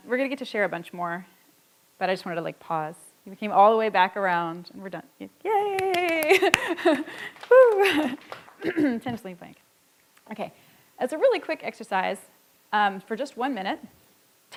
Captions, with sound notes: We're gonna get to share a bunch more, but I just wanna, like, pause. We came all the way back around and we're done. Yay! (claps and laughs) Woo! (audience applauds) (clears throat and mumbles) Okay, as a really quick exercise for just one minute,